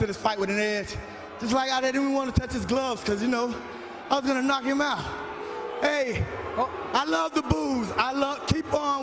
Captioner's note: boos